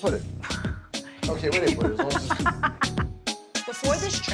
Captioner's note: laughing